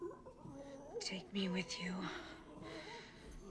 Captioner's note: whispering